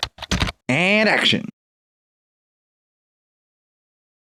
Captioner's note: typing